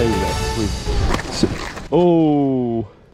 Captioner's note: drone Dying Sounds